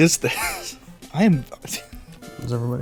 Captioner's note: stammering